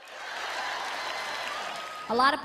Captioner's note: applause